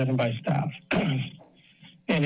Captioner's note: clears throat